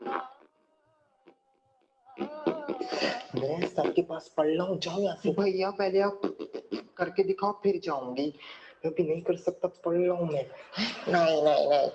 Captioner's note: man continues to imitates flatulent sounds